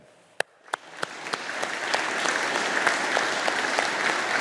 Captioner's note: audience applauding